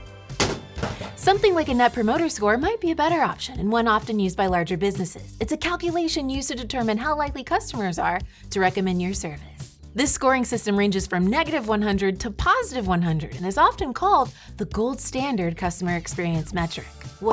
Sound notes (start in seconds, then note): 0.3 board banging